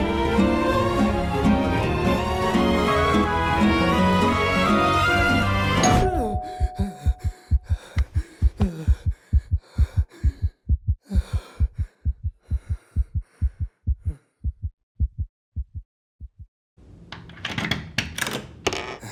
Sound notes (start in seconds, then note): 5.8 gasps; 5.8 doorbell rings; 6.7 panting; 17.2 door latch clicks